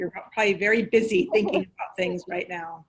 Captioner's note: laughs